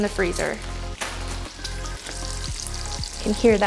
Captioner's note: bacon sizzling